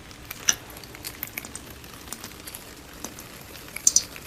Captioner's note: more rhythmic tapping